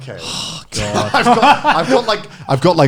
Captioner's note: all laughing